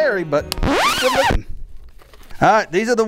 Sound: record scratch

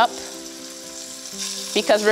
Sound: sizzles

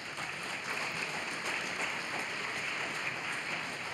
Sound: applause

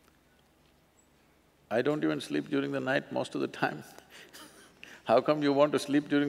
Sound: laughs

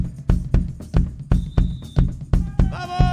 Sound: tambourine jingling; whistle tooting

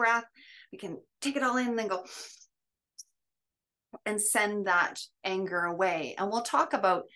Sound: breathes in

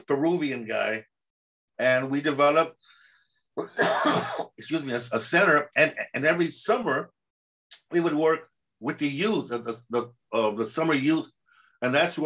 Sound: sneeze

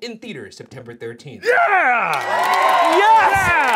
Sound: audience cheering

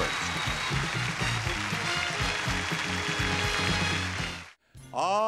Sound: audience applauding; exciting music

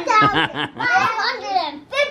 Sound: man laughs

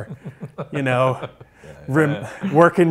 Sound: laughs

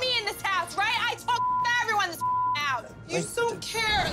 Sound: beep

